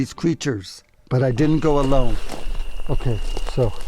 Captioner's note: crickets chittering